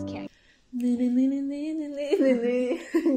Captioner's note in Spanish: tarareando